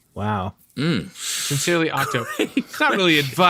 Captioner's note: laughter